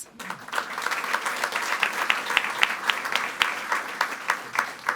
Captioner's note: all applauding